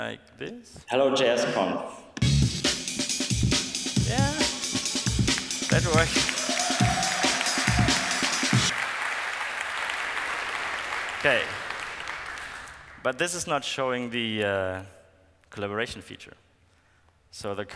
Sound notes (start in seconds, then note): 5.1 applause